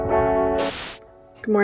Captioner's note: static